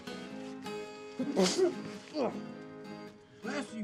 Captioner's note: Isaac sneezes and grunts